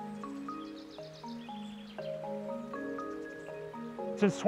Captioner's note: birds chirping